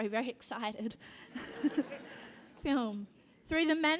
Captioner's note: laugh